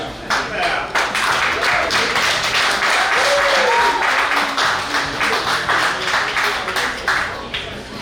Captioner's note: cheering & Clapping